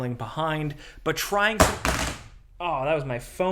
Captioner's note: phone thudding